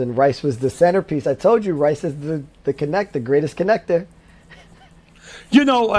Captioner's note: laughs